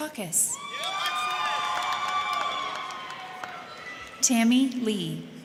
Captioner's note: crowd cheering; crowd clapping